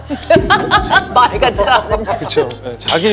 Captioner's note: bursts out laughing